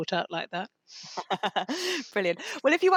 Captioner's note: laughter